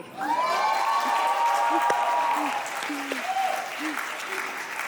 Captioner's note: audience applauding